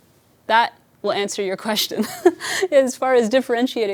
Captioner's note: chuckles